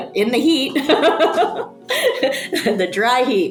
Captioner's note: person laughing